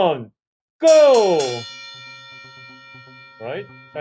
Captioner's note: bell ringing